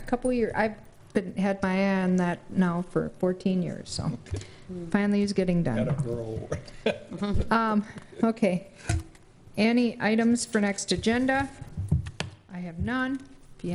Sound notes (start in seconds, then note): 6.4 laughs